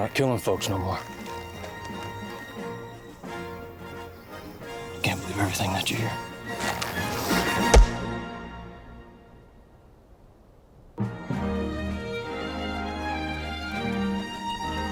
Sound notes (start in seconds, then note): 7.5 boot stomping; 11.0 light triumphant music